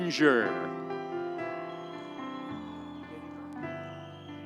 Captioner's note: audience cheering